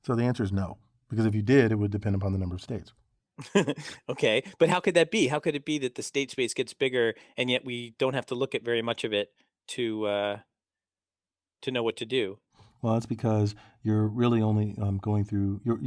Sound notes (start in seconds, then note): 3.4 laugh